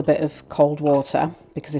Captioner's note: splish splash